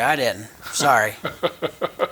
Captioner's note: chuckling